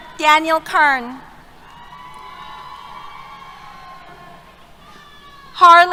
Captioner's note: cheers